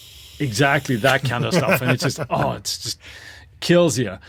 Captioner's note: laughs